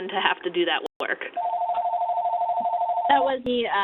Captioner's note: phone ringing